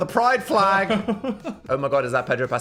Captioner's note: laughs